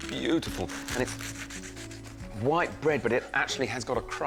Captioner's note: bread crunches